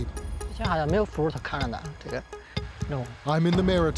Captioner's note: speaking other language